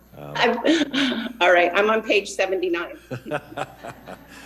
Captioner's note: laughs